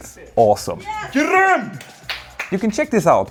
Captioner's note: speaking Swedish